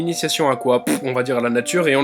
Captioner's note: fart with lips